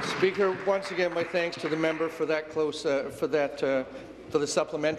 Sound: applause

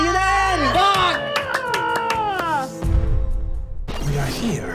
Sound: cheering and clapping

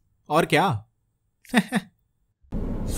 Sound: forced Laughter

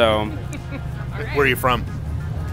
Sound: laughs

